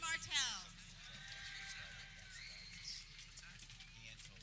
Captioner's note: people cheering